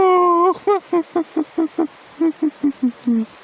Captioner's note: crying